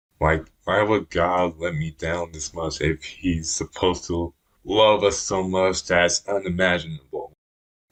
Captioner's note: none